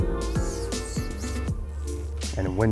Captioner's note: line whooshing